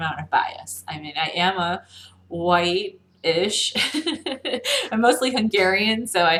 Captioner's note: laughs